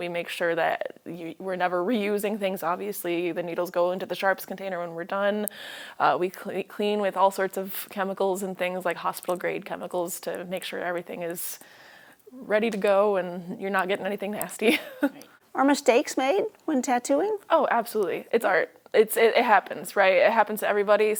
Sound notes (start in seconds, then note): 14.6 laughs